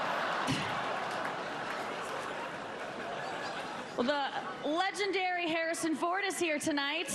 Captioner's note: laughter